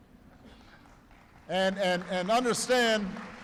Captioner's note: applause